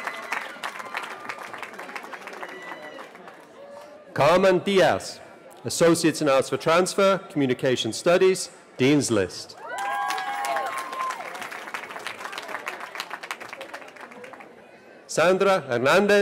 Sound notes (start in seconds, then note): 2.0 cheering; 11.1 cheering